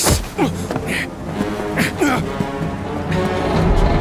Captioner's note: men grunting